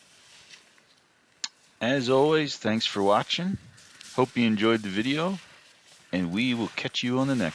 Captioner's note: snow crunching